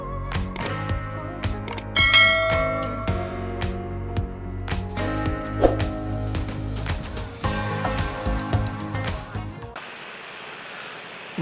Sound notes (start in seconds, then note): 2.3 clap